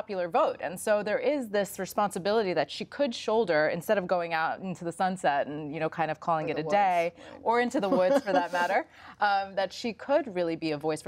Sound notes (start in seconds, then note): 7.8 laughs